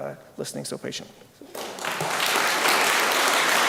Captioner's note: applause